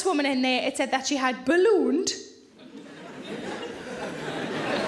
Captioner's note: audience laughing